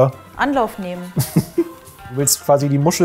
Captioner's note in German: Kichern